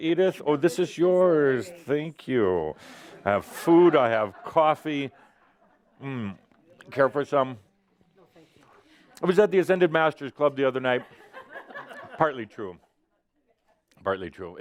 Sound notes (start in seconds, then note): 3.2 laughter as he takes the plate of cookies; 11.0 more giggles